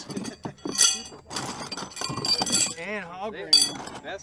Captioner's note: metal clanks